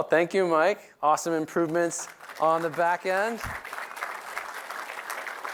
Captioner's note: applause